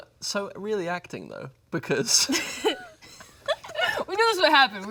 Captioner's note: giggles